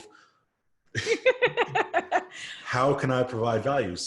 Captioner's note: both laugh